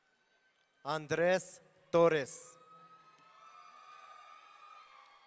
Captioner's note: audience cheering